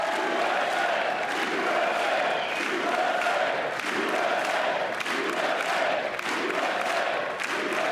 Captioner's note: applause